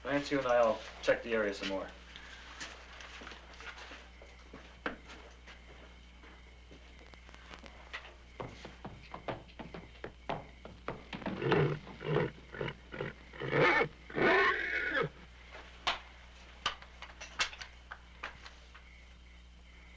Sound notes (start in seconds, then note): 8.4 horse clopping; 11.2 horse neighing